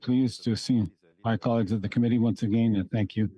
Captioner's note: speaking French